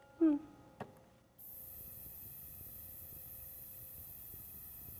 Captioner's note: sizzling